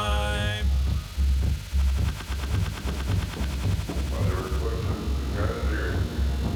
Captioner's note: glitchy tape recordings